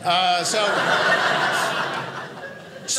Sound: audience laughing

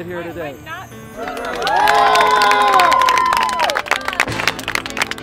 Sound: cheers

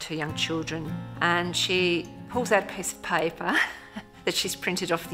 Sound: laughs

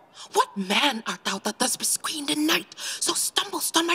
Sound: none

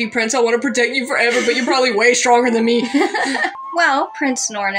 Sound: laugh

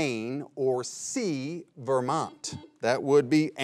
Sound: buzzer beeps twice

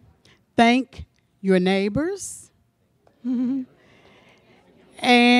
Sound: laughs

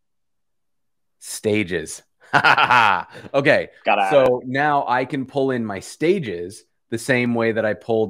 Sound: laughs

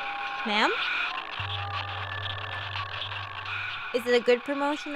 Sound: static and faint demonic cries

